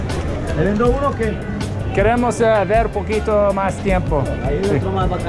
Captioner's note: speaking foreign language